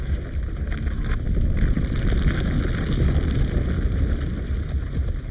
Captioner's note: ground cracking